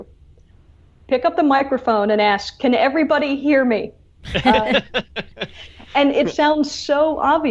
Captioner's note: laughs